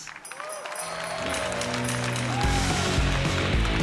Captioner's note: applause